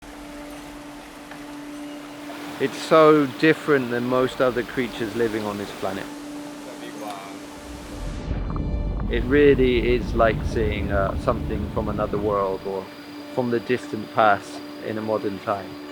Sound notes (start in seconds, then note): 2.0 water gurgling